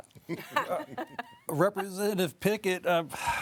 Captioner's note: group chuckling